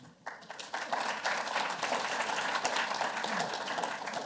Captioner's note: applause